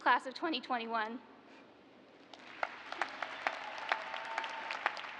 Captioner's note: cheers and applause